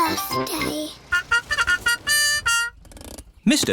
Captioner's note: horn tooting